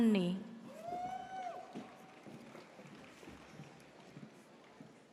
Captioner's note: audience cheers